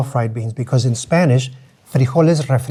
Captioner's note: speaks in Spanish